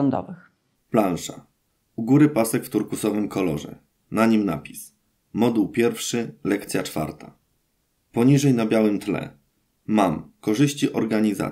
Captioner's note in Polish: Głos męski z offu, audiodeskrypcja planszy